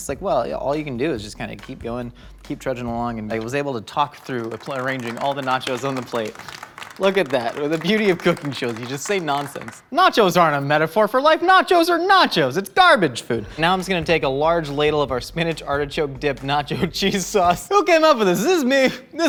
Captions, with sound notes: It's like, well, all you can do is just kind of keep going, keep trudging along and they was able to talk through arranging all the nachos on the plate. (crew applauding) Look at that. The beauty of cooking shows you just say nonsense. Nachos aren't a metaphor for life, nachos are nachos! It's garbage food. Now I'm just gonna take a large ladle of our spinach artichoke dip nacho cheese sauce, who came up with this, is this me?